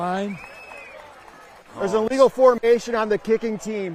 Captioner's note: applause